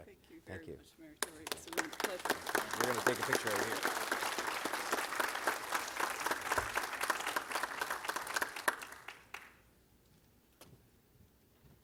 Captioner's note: applause